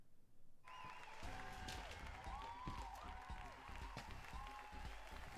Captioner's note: audience on TV applauding